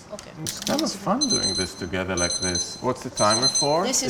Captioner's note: timer beeping